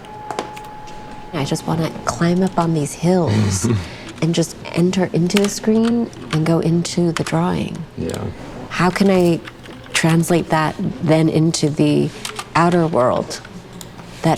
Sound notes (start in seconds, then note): 3.2 chuckles